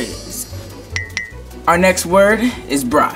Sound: tinkling

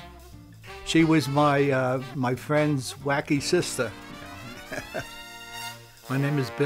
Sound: laughs

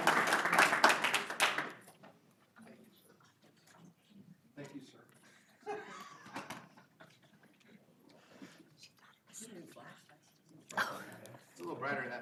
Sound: applause

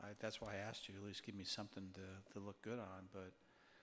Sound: none

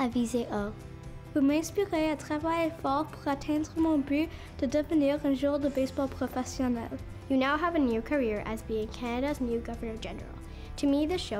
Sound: speaking French

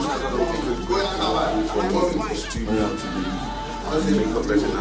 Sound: all chattering indistinctly

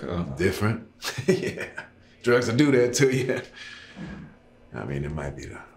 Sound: laughing; laughs

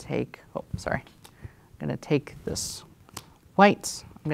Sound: card slaps

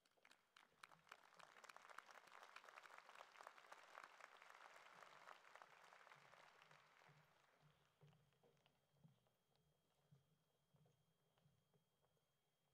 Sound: applause

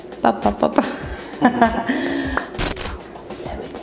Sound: laughing

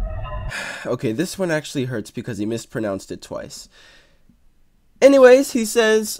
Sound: sigh

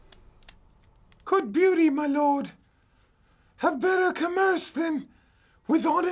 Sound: in high pitch

